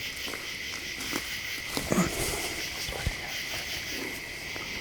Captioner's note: insects chirping